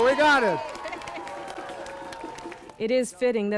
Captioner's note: crowd cheering and applauding